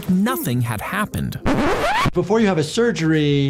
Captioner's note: transition scritches